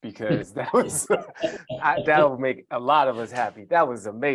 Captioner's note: chuckling